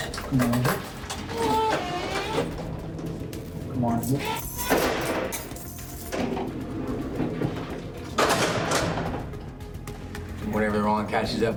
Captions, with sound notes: Come on in here. (door slamming)